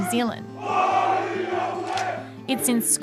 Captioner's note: all chant